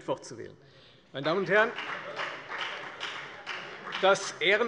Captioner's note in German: Beifall bei der FDP